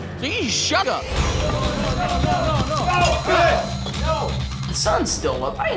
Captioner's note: fighting, shouting